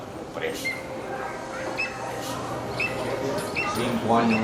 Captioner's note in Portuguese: Pio de águia